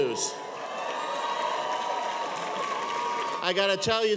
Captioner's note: audience cheers